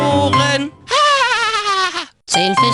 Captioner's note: laughter